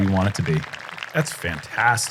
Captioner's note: applause